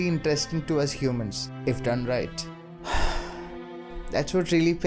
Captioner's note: sigh